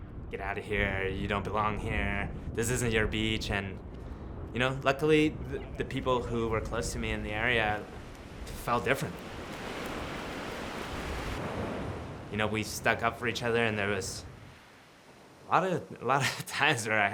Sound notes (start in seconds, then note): 9.1 ocean crashing; 16.2 laughs